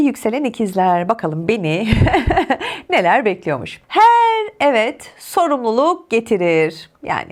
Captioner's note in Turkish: kahkaha